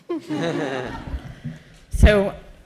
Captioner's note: chuckles